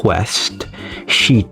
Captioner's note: inhales Oxygen